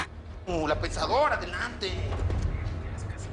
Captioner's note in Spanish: Susurra